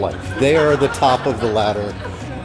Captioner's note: crowd laughs